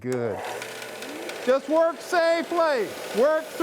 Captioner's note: machine roaring